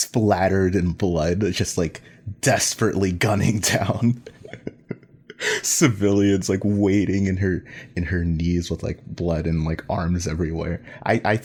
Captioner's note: laughs